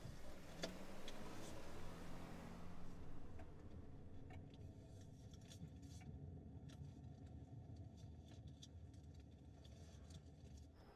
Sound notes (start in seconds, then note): 4.5 engine hums